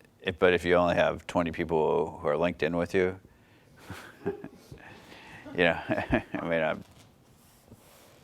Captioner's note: laughs